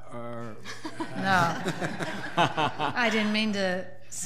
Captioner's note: laughing